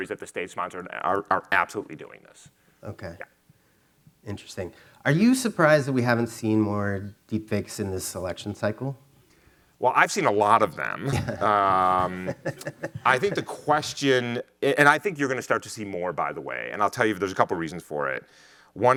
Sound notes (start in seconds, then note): 10.9 laughing